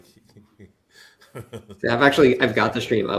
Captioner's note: laughs